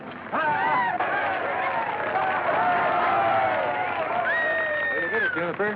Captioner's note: cheering